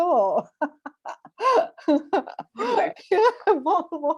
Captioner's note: laughter